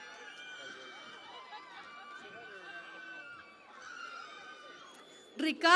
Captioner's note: cheering and Applause